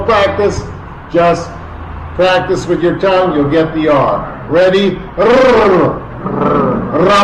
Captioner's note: rolling tongue sound